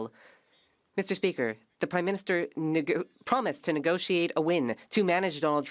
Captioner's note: speaking French